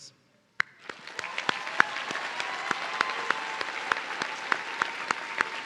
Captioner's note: audience cheering